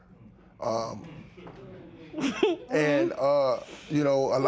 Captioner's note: light laughter